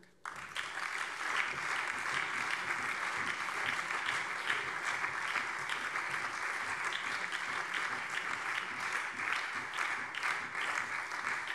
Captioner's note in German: Beifall BÜNDNIS 90/DIE GRÜNEN, SPD, vereinzelt CDU und Freie Demokraten